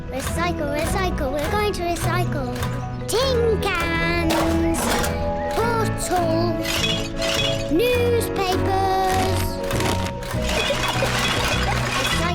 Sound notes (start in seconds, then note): 3.7 cans rattle; 6.7 bottles clink; 9.1 newspapers thud; 10.4 giggles